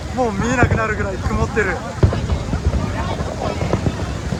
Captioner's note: laughs